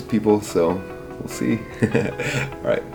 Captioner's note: laughing